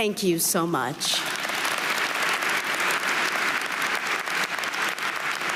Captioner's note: audience applauding